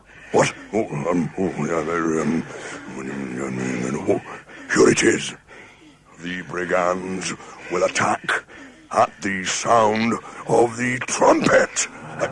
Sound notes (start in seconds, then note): 2.2 muttering